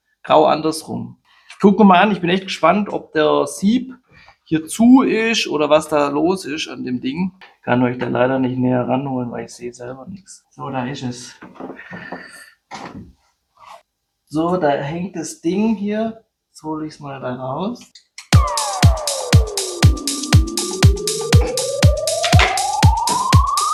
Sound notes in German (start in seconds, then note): 12.0 schnauben